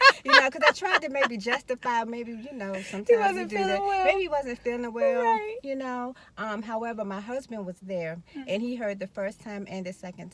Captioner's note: laughing